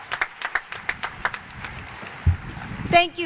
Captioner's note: cheers and applause